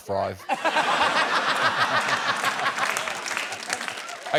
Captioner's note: laughter